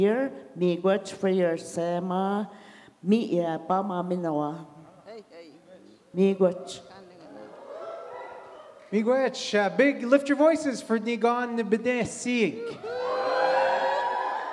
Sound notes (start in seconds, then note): 2.3 in Indigenous language; 12.7 audience cheers